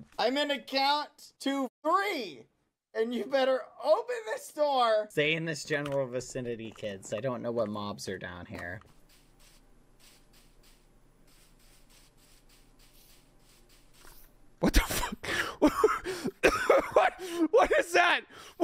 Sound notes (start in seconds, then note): 8.8 footsteps on grass; 14.6 coughing; 16.0 breathless